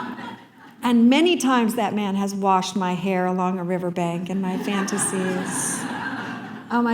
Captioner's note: laughter; laughter